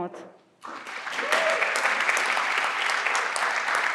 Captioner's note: everyone claps